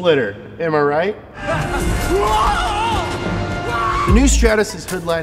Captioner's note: screaming